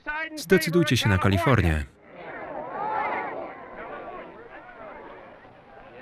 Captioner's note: crowd chattering angrily